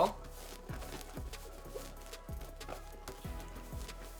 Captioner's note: gentle rustling